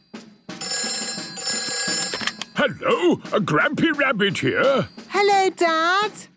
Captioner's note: phone ringing